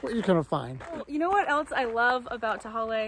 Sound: laughs

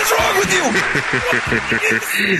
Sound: laughs

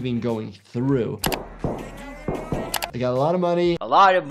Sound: key clacks

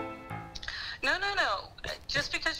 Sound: over Phone

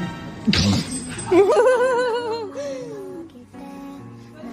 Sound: laughing

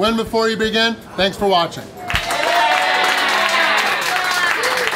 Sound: crowd

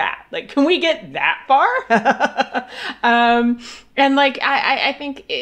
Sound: laughs

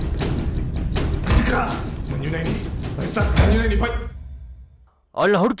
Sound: Malay Language

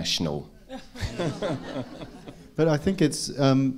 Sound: audience laughing

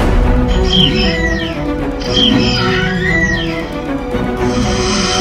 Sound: raptors squealing

